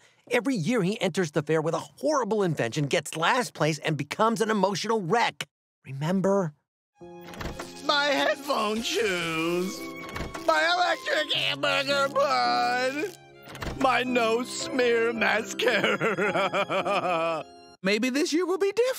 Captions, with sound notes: Every year he enters the fair with a horrible invention, gets last place and becomes an emotional wreck. Remember? My headphone shoes. My electric hamburger bun. My no smear mascara. [crying] Maybe this year will be different.